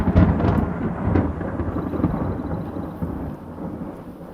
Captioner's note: thunder rumbles